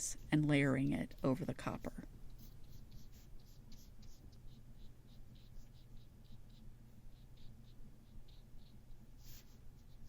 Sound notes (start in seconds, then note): 2.3 dry scratchy long brush strokes; 7.1 lightly tapping brush strokes